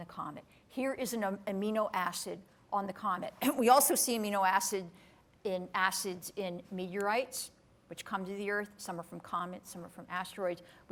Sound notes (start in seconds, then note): none